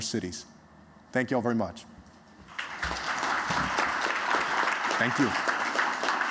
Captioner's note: applause